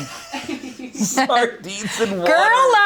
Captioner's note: laughs